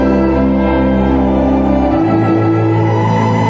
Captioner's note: wind whistling